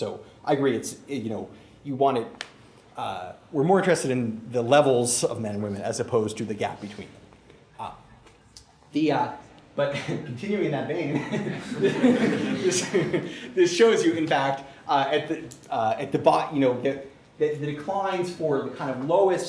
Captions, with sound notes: I agree we're more interested in the levels of men and women as opposed to the gap between them. But continuing in that vein [laughter] this shows you in fact that the declines for the lowest